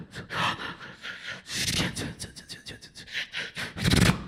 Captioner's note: beatboxing